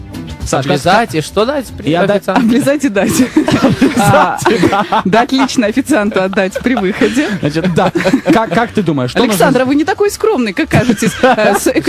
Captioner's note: everybody laughing